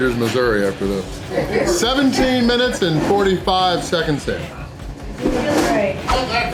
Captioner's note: crowd laughter